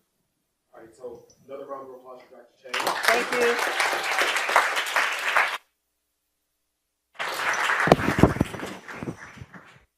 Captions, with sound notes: - Alright so, another round of applause for Dr. Chang. (audience applause) - Thank you!